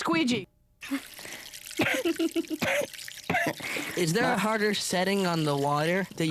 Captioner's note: giggles and coughs